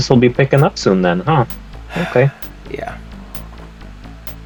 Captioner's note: sigh